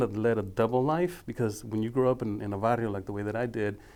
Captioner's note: speaking foreign language